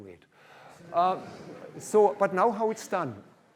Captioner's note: laughter